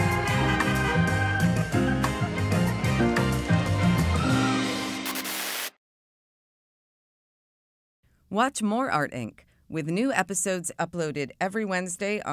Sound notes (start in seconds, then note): 0.0 TV buzzes; 0.0 car honks; 0.0 upbeat music continues; 5.0 TV buzzes